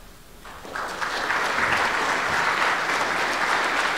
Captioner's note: applause